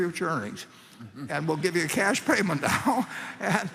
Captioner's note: laughter